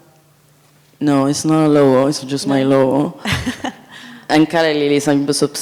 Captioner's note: laughs